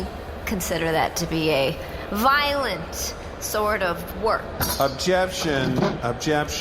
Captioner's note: banging the table, standing up